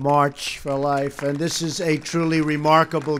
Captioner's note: applause